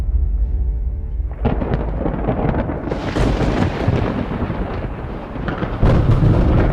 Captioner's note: thunder rumbles; water sputtering